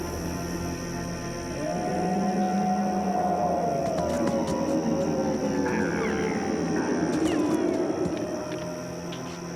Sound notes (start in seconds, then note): 1.5 howling Continues; 5.6 deer Braying